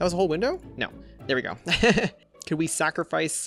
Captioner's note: laughs